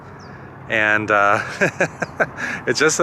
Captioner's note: laughter